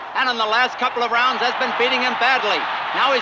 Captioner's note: crowd cheering